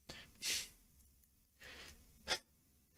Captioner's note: sniffles